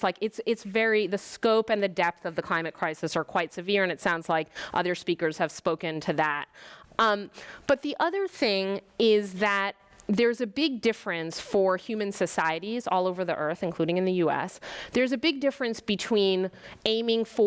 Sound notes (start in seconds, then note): none